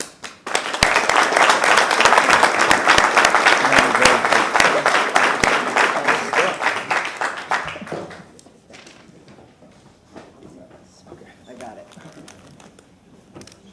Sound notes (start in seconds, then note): 2.9 applause